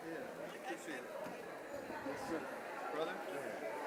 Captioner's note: people chatting